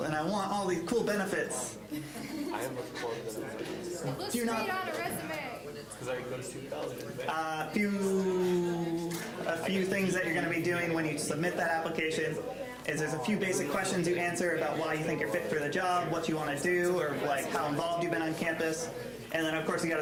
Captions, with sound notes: and I want all these cool benefits. (laughter) >> Let's figure out a resume. >> A few things that you're gonna be doing when you submit that application is there's a few basic questions you answer about why you think you're fit for the job. What you want to do, or like how involved you've been on campus, and then of course you